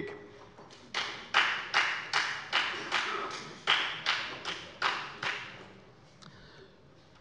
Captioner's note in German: Beifall bei der FDP